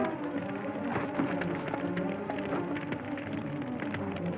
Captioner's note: fire crackling